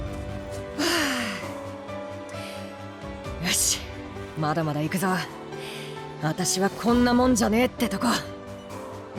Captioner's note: sigh